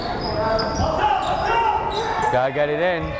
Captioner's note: yelling